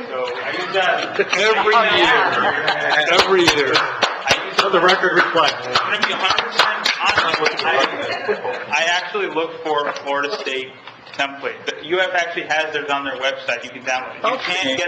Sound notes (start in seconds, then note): 3.0 clapping; 8.1 laughing